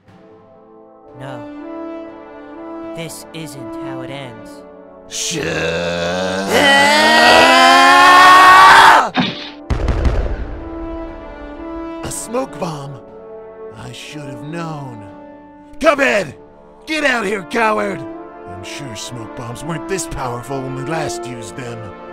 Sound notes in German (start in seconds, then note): 5.2 Geschrei; 9.2 Puff